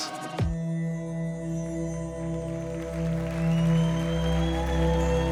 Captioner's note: audience applauding